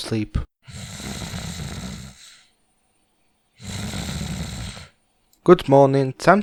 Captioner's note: snoring noise